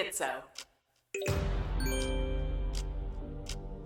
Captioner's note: ding, chime